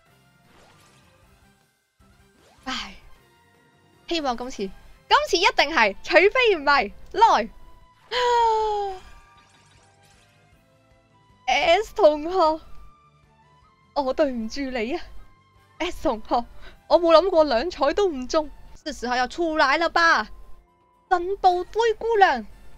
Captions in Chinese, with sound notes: 唉 希望这次 这次一定是！除非不是！来！ （吸气） Ｓ同学 我对不起你啊 Ｓ同学 我没想过２彩也没中 是时候要出来了吧！真步灰姑娘！